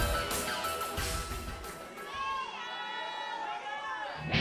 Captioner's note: crowd chatter